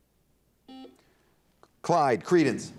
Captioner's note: buzzer dings